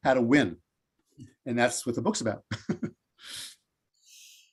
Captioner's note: chuckles